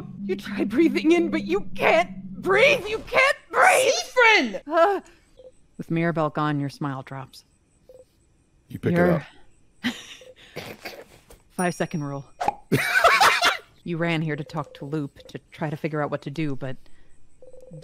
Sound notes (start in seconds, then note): 9.8 snickering; 12.7 laughter